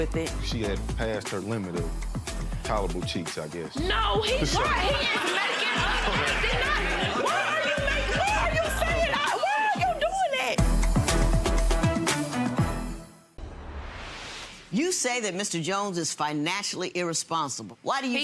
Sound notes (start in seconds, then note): 4.2 audience laughs; 10.6 dramatic music